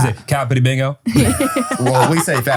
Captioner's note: group laughs